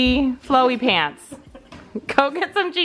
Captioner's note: laughing